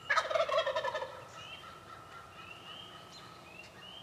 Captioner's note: birds chirping